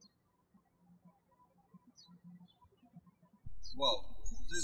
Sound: birds chirping

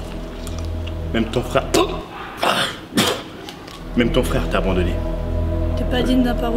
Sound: cought

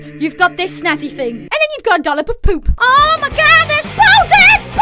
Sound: none

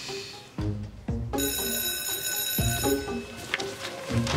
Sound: bell rings

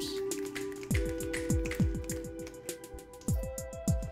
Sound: snapping

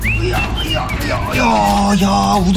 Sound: sound of lifting heavy object

